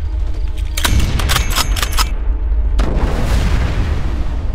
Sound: gun clicks

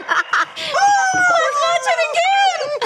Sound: laughing; both cheering

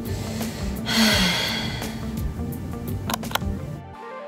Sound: sighs

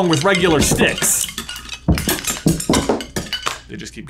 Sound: wands clattering

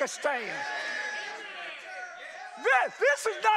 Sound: congregation cheers

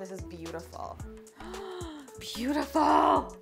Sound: gasping

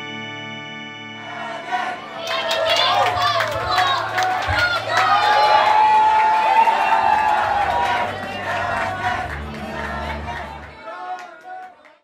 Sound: crowd cheering and applauding

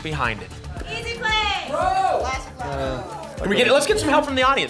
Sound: audience shouting games

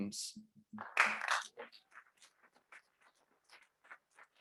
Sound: audience clapping

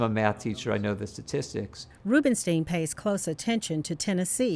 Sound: voiceover

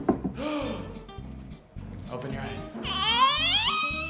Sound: gasps; squealing

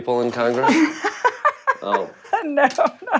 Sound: laughter

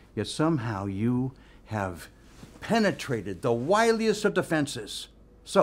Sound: none

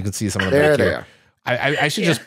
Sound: laughs

